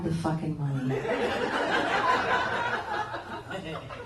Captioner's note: laughing